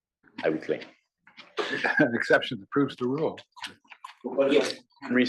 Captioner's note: laugh